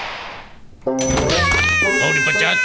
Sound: sighing; yelling

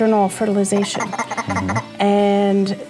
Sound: frog croaks

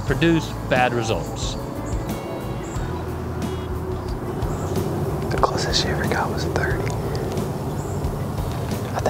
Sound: whispering

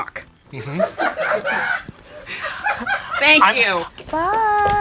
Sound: people offstage laugh

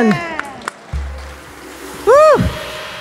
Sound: audience clapping

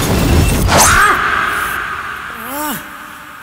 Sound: shouting

